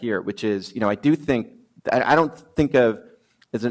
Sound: none

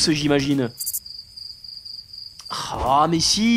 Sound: noises of crickets

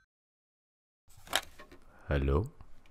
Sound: noise of phone getting picked up

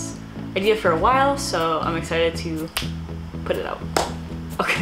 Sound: snaps; claps; laughing

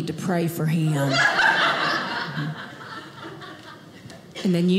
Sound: audience laughing

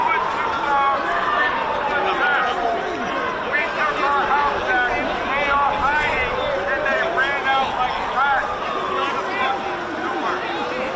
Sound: crowd noise

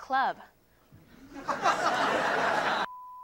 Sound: audience laughing; beep

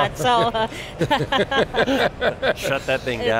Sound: laughing

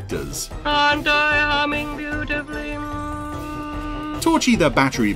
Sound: humming

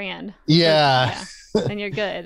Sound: laughs

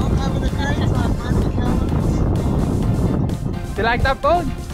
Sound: yelling from distance

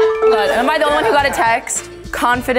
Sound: notification ringing; laughing

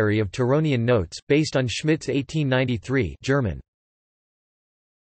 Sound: German

